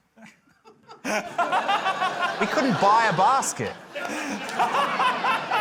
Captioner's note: laughter